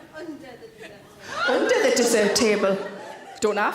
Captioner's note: audience member gasps